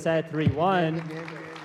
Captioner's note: applause